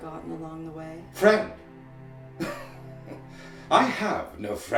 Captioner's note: laughing